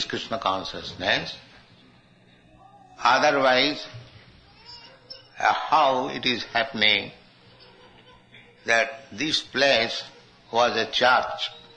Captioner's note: babies crying